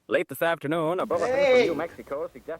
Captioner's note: man screams